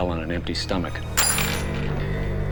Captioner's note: coins clinking